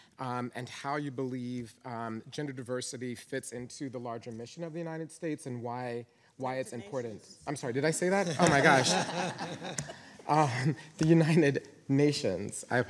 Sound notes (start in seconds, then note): 8.1 panelists laughing; 8.3 audience chuckling